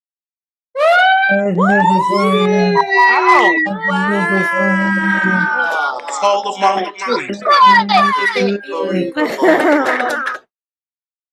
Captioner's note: applause